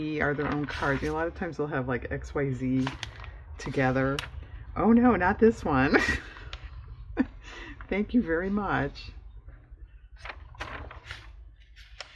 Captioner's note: laughs